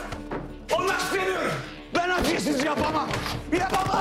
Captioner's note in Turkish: Bağırıyor